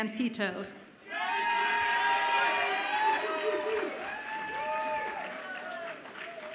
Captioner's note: audience applauds and cheers